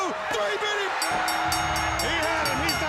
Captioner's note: bell ringing; crowd cheering